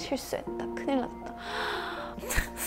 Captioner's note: gasp